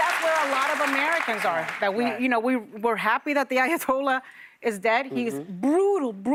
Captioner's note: applause